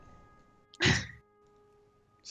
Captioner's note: hah